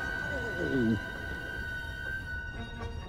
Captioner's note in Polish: połyka ślinę